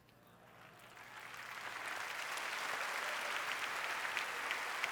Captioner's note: applause